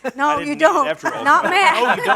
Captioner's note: laughter